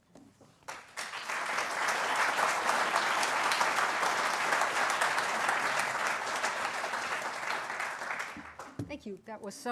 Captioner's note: applause